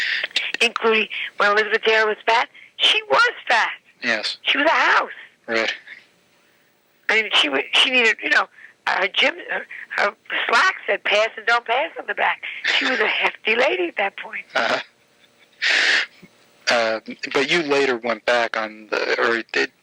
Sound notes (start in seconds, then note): 14.5 laughing